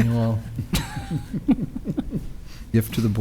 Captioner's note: chuckling